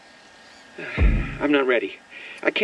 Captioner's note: sigh